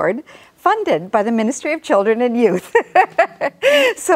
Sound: laughs

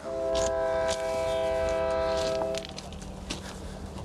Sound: train whistle

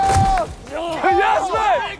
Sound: contestants screaming

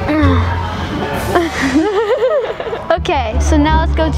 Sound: both laughing

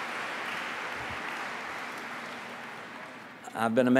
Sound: applause

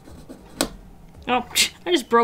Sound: snap

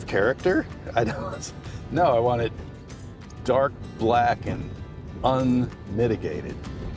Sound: chuckles

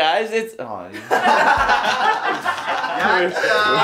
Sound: laughter

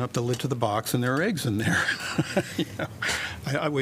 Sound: laughter

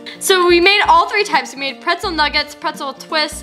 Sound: none

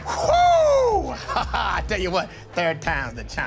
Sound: laughs

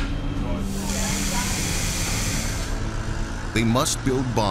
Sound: machinery buzzing

